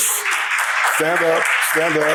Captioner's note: audience applauds